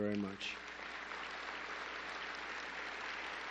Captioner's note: applause